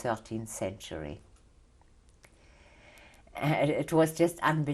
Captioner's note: pauses for 3 seconds